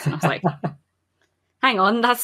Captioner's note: laughs